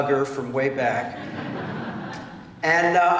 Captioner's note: laughter